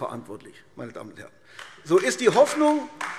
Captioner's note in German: Beifall AfD